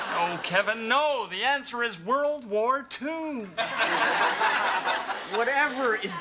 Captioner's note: audience laughs; audience laughs